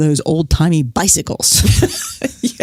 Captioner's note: laughs